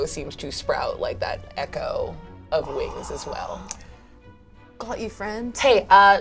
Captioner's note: gasps